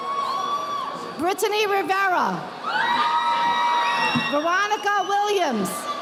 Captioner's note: audience applauding